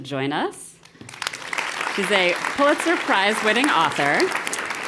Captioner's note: applause